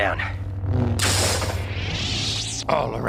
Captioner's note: zapping; laser whirring